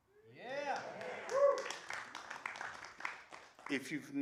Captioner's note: applause